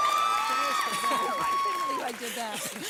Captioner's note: audience cheers